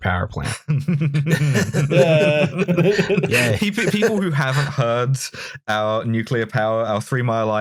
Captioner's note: laughter